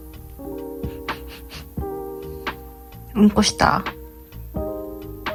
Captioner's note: sounds like a sniff